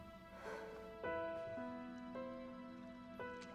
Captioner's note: Mattie sighs